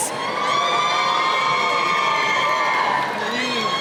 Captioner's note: cheering